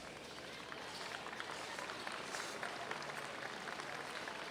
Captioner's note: audience applauds